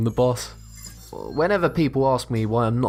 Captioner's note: futuristic ringing